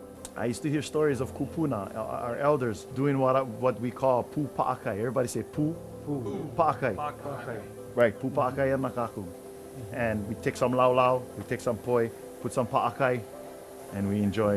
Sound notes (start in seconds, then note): 6.6 speaking Hawaiian